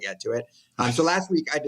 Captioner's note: laughs